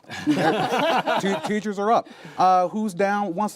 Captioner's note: laughter